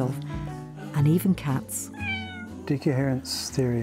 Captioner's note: cat meows